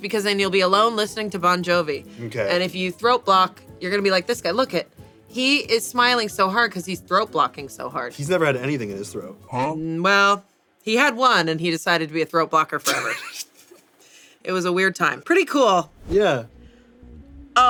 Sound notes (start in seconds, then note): 12.9 laughs